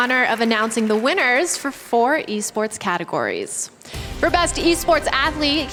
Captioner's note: applause